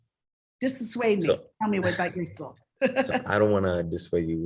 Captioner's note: chuckles